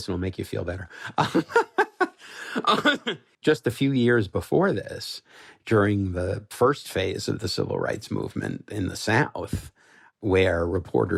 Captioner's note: laughs